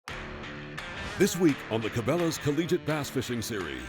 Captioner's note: voiceover